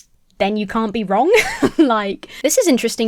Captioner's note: laughing